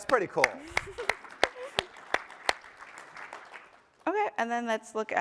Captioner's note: applause